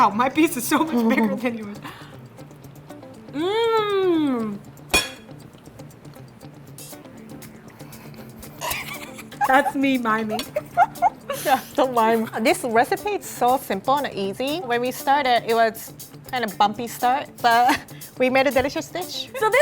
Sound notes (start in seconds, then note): 3.2 chewing; 4.9 clanking; 5.1 light electronic music; 8.5 laughing